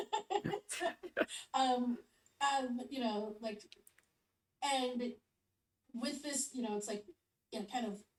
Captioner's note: laughs